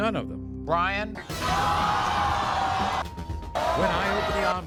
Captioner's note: audience yelling